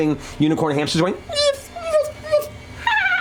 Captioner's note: squeaks; high pitched whinnying